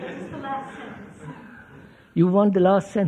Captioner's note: laughter